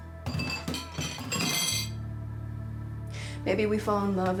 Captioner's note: dishes clatter